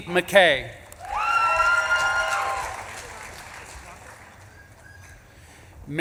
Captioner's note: audience claps and cheers